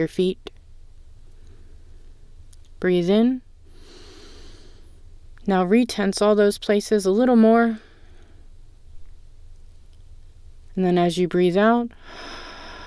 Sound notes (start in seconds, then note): 3.7 inhale; 12.0 exhale